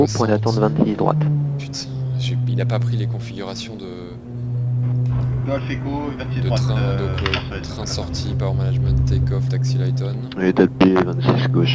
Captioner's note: reverse noise